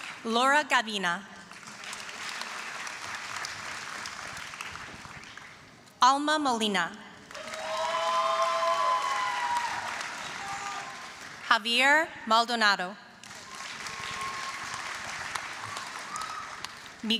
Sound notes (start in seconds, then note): 0.0 applause; 1.4 applause; 7.2 applause, cheering; 13.2 applause, cheering